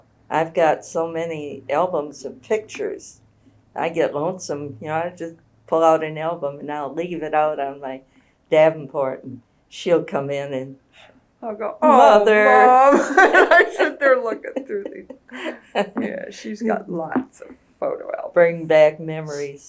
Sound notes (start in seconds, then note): 12.8 laughter